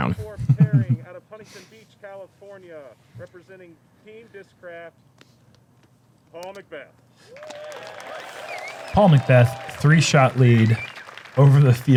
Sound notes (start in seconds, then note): 7.3 applause